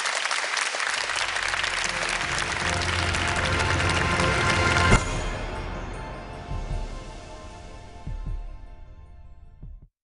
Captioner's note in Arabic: تصفيق